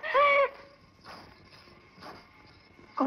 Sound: anklet Sound

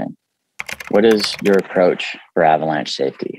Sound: keyboard clicking

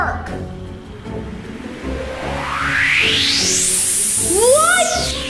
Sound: air hissing

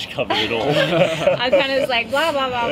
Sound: laughter

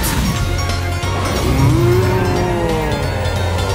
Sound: roaring

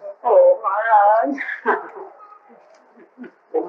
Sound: laughter

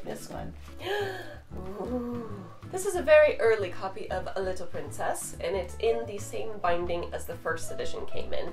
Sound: gasps

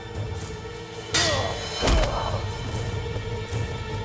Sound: Kılıç sesi

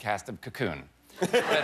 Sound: laughter

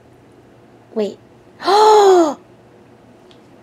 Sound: gasps

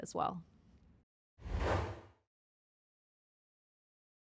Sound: whoosh

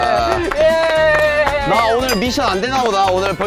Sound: clapping

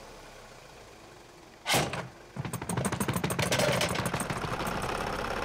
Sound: engine rattling worsens

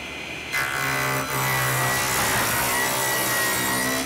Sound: saw buzzing

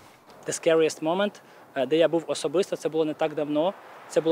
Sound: in Ukrainian

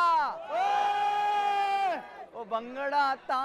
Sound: cheering

